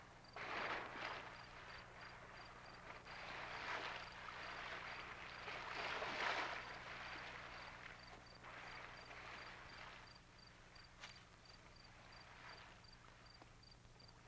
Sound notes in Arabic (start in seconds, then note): 1.4 الأمواج تتكسر